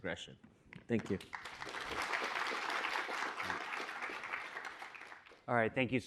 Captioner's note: applause